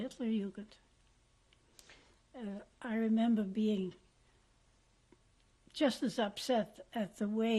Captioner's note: pauses for 3 seconds